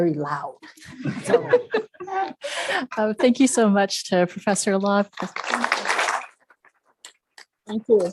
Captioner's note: laugh; applause